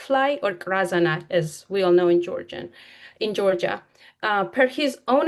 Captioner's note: speaks in foreign language